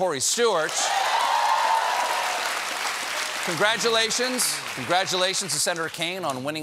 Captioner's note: applause